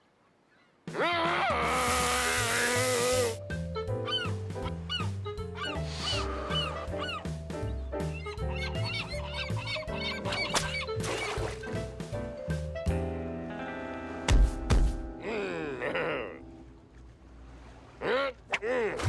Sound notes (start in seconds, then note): 3.5 gulls squawking